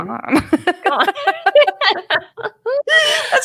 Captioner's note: laughter